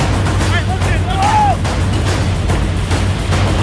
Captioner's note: tense music continues; men yelling